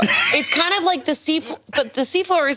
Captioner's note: laughs